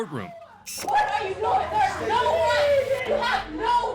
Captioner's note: indistinct chatter, screaming